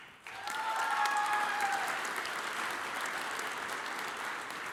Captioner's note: audience applauds